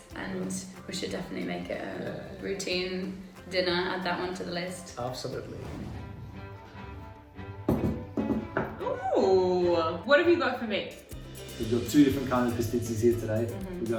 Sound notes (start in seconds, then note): 5.3 swishing; 7.6 dishes thud